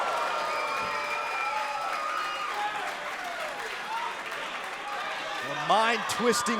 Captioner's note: crowd cheering